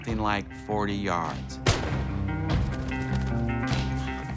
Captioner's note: gunshot